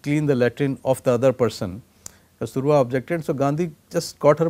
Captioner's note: Latin